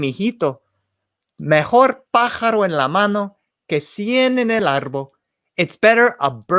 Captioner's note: spoken in foreign language